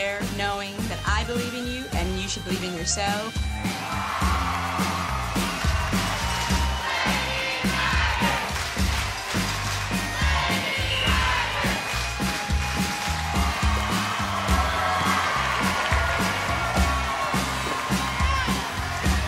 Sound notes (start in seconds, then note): 3.8 crowd cheering; 7.2 crowd; 8.2 clapping; 12.1 clapping; 13.6 crowd cheering